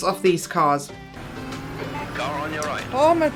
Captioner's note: engine revving